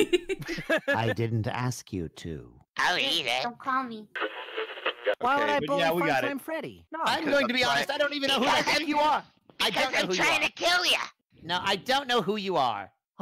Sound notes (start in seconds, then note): 4.1 radio tuning noises